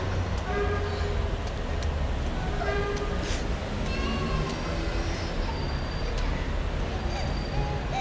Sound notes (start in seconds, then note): 0.2 horn; 3.8 child cries